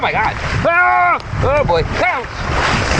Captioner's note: screaming